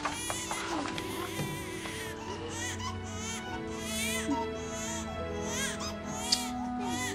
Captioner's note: <i> baby continues crying</i>